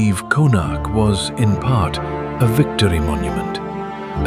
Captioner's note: thoughtful